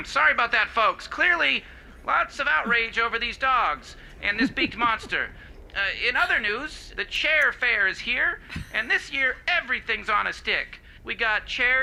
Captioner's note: laughter